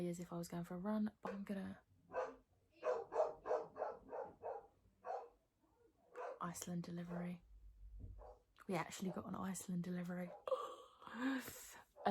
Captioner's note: Belle barking